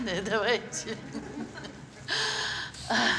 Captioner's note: chuckles; sighs